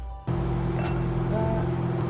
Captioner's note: price checker beeps